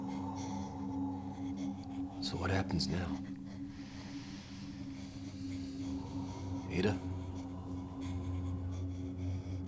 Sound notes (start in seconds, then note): 0.3 heavy exhaling; 5.8 heavy exhaling